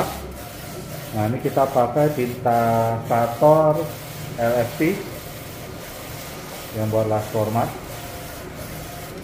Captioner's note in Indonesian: suara mesin printer